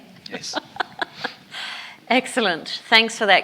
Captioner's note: laughs